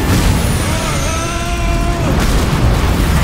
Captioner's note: rocks and ice whoosh, boom, and clatter; grunts, straining